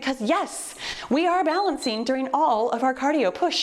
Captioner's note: timer beeps